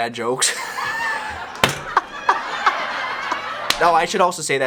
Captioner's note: crowd and laugh